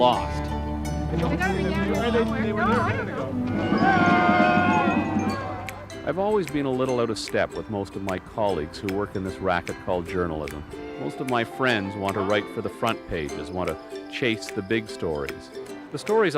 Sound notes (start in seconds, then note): 3.4 chatter; 3.5 cheering